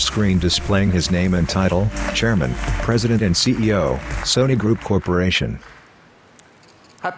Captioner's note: applause